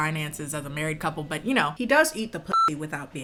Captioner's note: beep